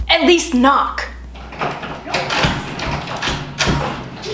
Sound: door struggles to unlock

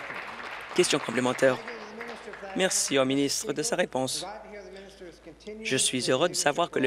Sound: applause

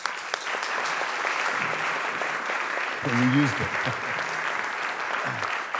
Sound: applause

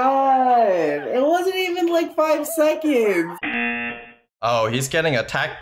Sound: laughs; buzzer rings

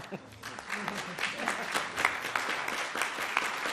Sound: audience clapping

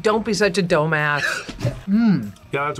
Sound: laughs

